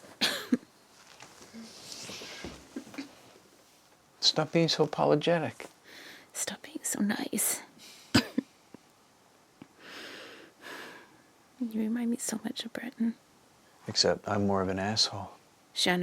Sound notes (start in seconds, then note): 8.1 coughs